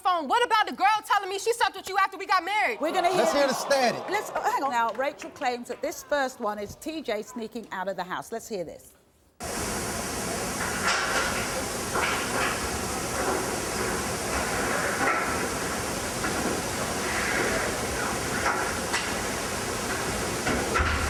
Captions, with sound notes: What about the girl telling me she slept with you after we got married? (audience groaning) - Let's hear the static. - Hang on now, Rachel claims that this first one is T.J. sneaking out of the house, let's hear this. (static with some clicking or banging sounds)